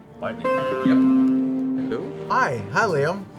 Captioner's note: computer alert sound